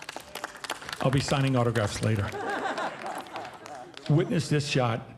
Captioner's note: audience laughing and applauding; audience laughing